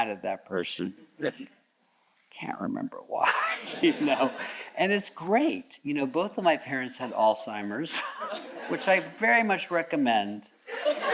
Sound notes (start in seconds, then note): 3.3 all chuckles